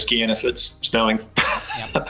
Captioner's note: laughs